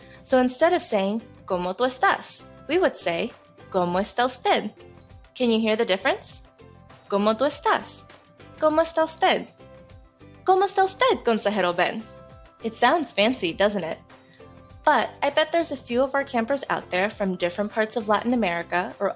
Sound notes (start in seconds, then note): none